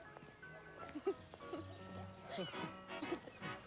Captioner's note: chuckles